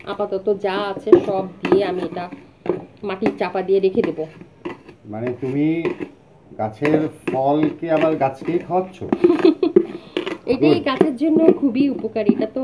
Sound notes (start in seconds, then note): 9.0 giggle